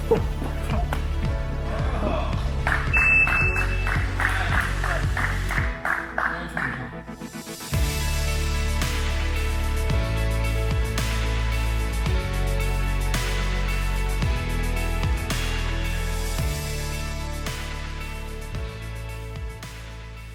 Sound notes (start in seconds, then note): 0.0 grunting; 2.9 timer beeping; 7.8 upbeat music